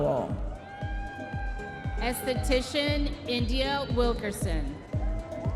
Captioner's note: audience members cheering